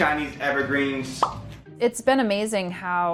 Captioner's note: bubble pop